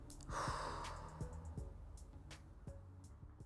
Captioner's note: exhales heavily